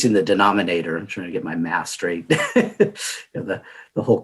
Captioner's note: laughing